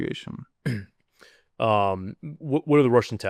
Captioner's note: clears throat